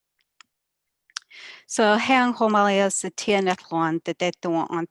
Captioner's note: speaking native